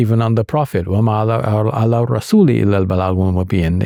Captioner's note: speaking in Arabic